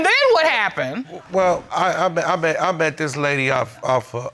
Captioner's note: stuttering